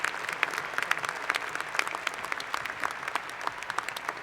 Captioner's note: cheers and Applause